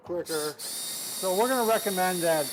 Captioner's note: drill whirring